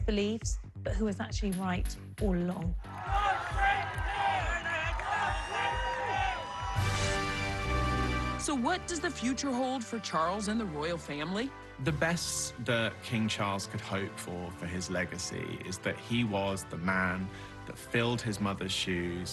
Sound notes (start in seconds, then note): 6.4 whooping